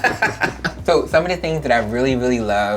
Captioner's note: laughter